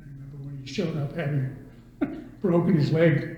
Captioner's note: laughs